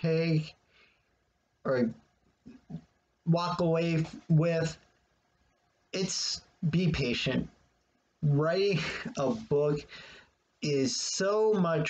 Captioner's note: chuckles